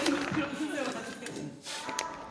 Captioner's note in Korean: 웃음